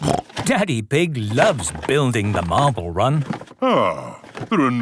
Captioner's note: snorting